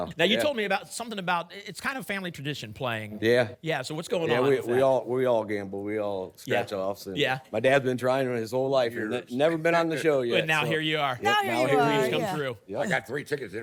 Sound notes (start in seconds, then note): none